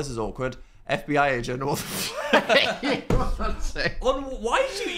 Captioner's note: laughs